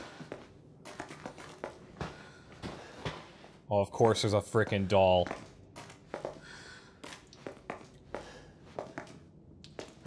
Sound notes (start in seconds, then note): none